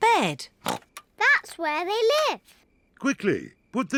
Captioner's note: snorts